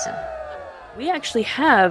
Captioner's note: cheering